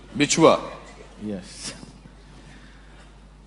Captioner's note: in Hindi